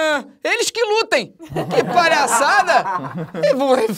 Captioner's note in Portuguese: risadas